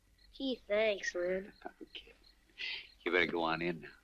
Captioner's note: chuckles